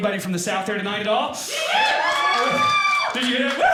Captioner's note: audience cheering